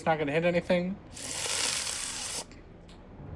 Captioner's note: stress noises